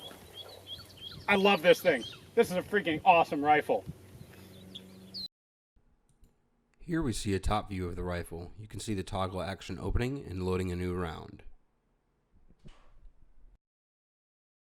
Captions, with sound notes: I love this thing. This is a freaking awesome rifle. - [Voiceover] Here we see a top view of the rifle. You can see the toggle action opening and loading a new round.